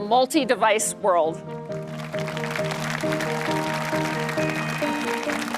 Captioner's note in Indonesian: Tepuk tangan